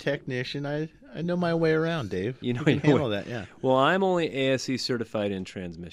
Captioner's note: laughs